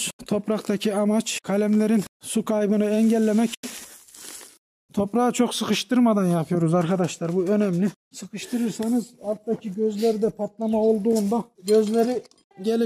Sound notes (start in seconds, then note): 2.8 the rustling of the soil